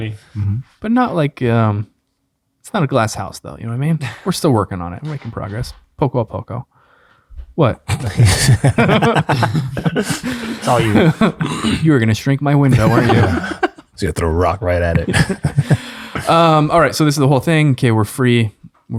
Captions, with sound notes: - But, not like, it's not a glass house, though, you know what I mean? We're still working on it. We're making progress. Poco a poco. What? (friars laugh) - It's all you. - You're gonna shrink my window, weren't you? - Gonna throw a rock right at it. - All right, so this is the whole thing. - Okay, we're free,